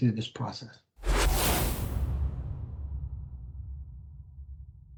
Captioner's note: whooshing sound